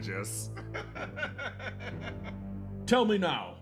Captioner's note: laugh